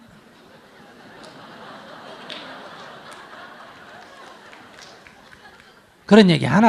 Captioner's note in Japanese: 聴衆 笑う